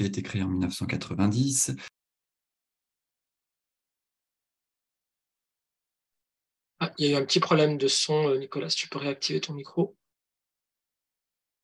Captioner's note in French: coupure son